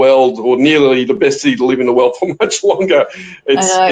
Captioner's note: laughs